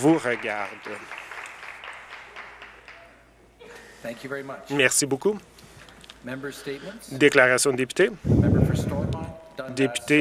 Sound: some Applause

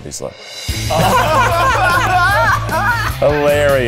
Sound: all laughing

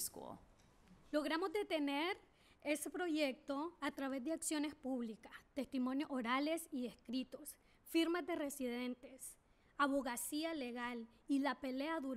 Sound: speaking spanish

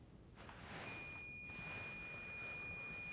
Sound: high-pitched long beep

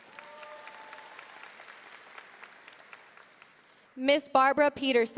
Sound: audience cheering and applauding

